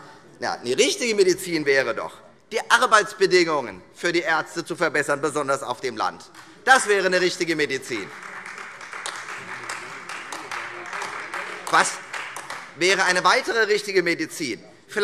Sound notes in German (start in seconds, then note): 8.5 Beifall Freie Demokraten und vereinzelt AfD